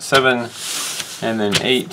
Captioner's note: paper slides